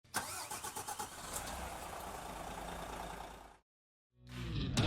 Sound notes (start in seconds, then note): 0.0 engine starts